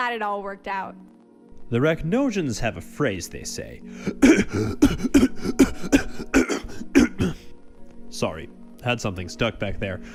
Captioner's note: coughing fit